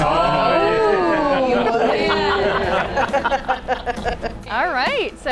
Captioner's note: all laughing